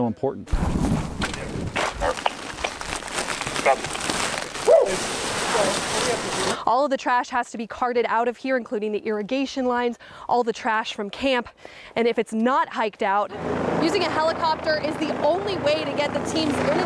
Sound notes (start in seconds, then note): 0.6 loud rustling